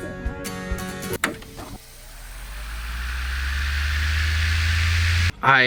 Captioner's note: rewinding sound